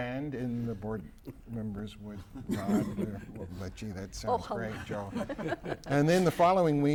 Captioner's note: laughter